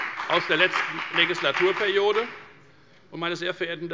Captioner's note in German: Beifall bei der FDP